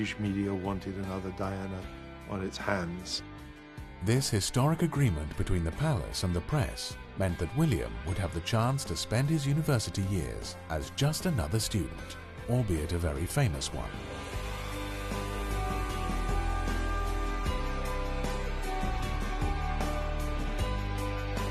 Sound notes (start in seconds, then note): 3.4 voiceover; 14.3 upbeat music